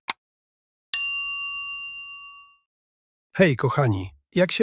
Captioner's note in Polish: dzwonek